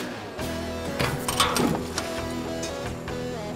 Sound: clank!

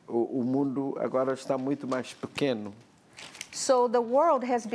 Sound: speaking portuguese

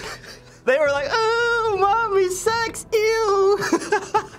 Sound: snickering; whimpering; laughs

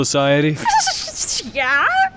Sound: laughing

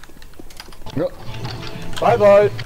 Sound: surprised

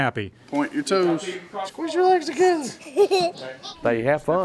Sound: laughing

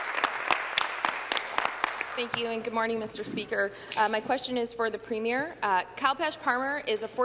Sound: applause

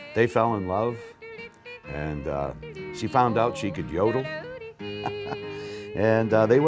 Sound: chuckles

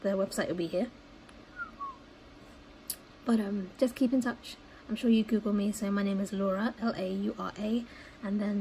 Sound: whistles

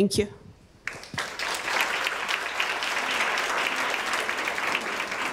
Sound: audience applauding

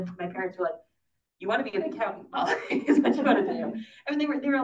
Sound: laughs

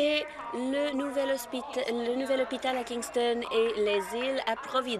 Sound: applause

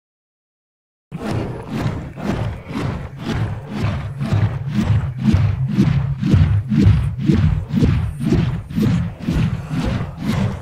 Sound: sound of a beating heart

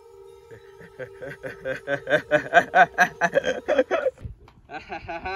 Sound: evil laughing

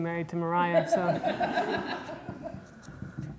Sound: audience laughter

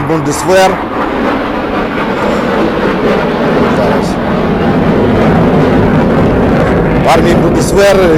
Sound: sound of fighter engine

